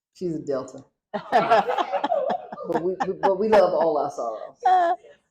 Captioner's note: laughter